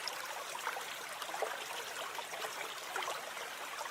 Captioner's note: running water